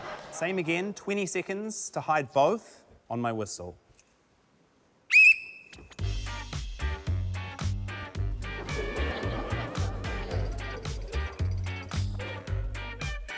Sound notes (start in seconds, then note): 0.0 laughter; 5.1 blows whistle; 5.8 funky music plays; 8.6 laughter